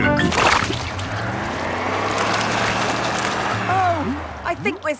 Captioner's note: sloshing, tires whirring